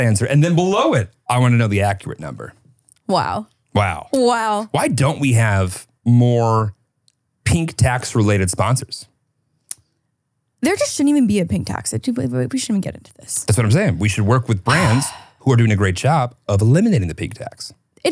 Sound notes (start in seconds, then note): 14.7 sighs